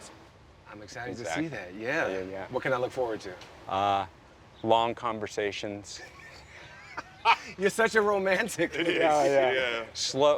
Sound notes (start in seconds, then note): 6.0 all laughing